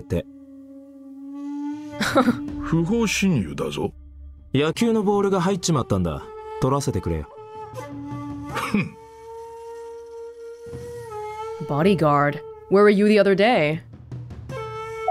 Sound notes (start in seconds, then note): 2.0 chuckles